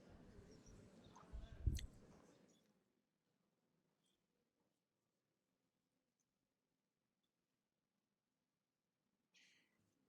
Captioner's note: pause